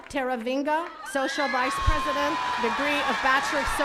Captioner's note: attendees cheering